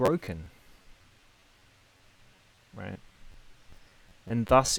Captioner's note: silence